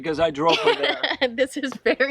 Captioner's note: laughs